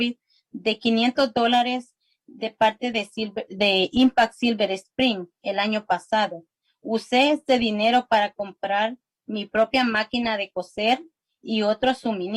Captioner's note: spanish